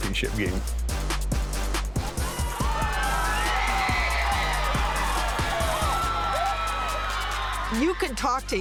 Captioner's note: upbeat music; crowd cheering